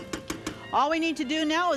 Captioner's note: spatula knocks